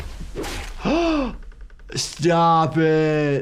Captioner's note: Meg screaming; stick slashes; sighs